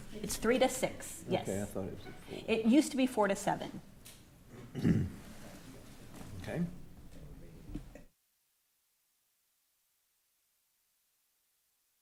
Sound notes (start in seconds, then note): 4.5 clears throat; 6.6 speaking quietly; 8.2 microphones turn off